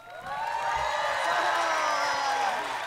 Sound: cheers

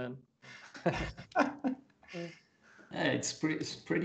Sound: laughter

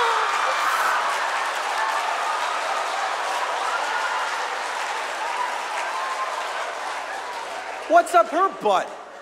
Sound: applause; audience laughs/cheers; applause

